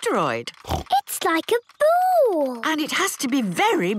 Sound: snorts

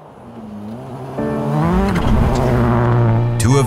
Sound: engine revs

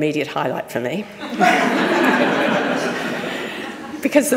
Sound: audience laughing

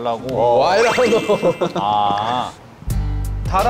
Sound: still laughing at his joke

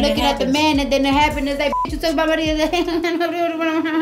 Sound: beep

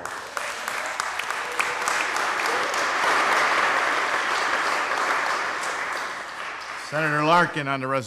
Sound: applause

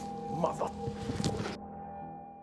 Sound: grunts

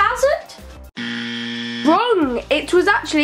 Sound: buzzer

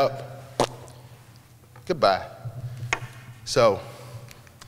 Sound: spitting noise

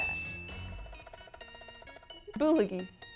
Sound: bell chimes

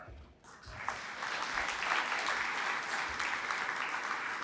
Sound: applause

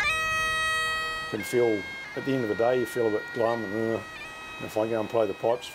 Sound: moans

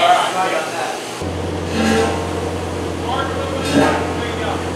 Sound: engine whirring

